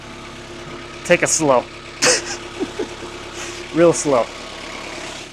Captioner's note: laughs